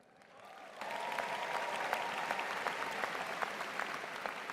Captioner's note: applause